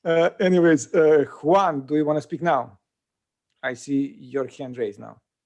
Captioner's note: laughing